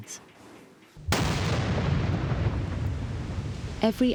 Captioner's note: explosion roars